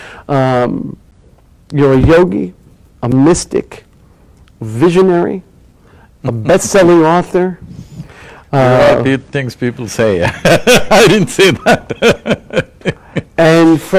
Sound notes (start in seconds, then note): 10.2 laughs